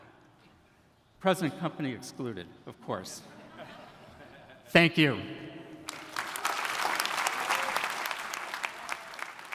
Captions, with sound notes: Present company excluded, of course. (audience laughing) Thank you. (audience applauding)